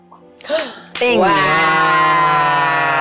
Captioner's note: gasps